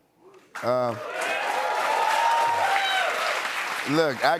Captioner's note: cheers and applause